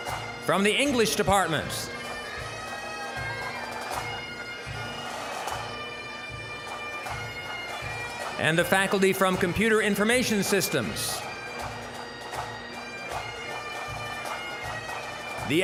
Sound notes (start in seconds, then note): 3.3 bagpipe music; 3.3 scattered cheering; 13.0 bagpipe music